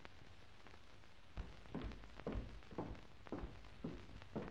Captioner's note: heels clacking